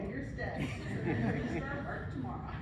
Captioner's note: laughing